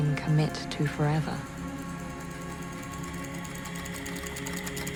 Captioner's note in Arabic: تستمر الكتابة